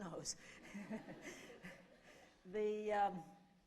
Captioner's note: laughter